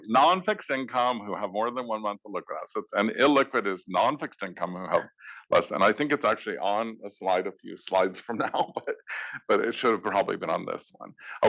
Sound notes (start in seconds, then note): 8.9 laugh